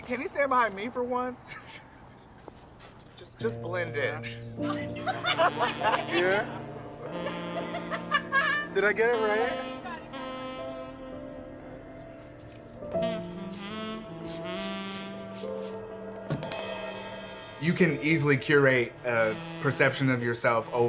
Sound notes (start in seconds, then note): 1.4 laughs; 4.6 laughs; 4.6 photographer laughing; 11.0 relaxing music; 12.5 spray hissing